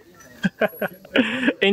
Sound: chuckle

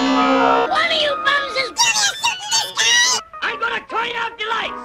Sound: extremely high pitch

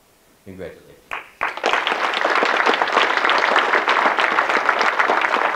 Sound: audience clapping

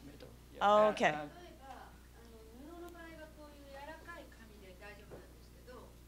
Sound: non-english speech

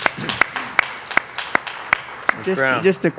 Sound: applause

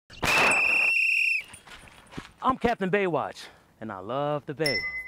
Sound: Captain BayWatch blowing whistle

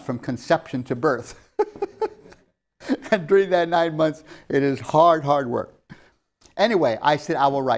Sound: laughs

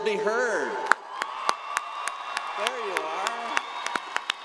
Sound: audience applauding

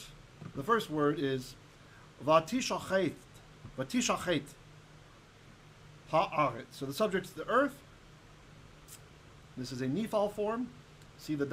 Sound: Hebrew

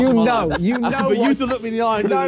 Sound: laughing

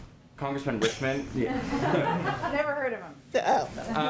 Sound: laughter

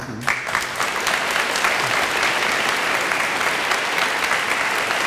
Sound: audience applauds

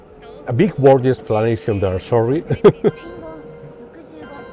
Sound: laughs

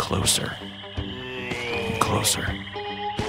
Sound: monster moans

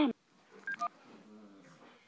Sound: static; phone beep

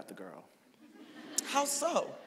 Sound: audience laughing

